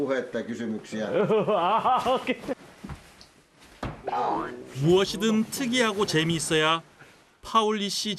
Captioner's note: laugh